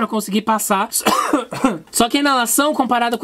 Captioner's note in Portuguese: Tosse